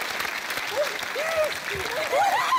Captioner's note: applause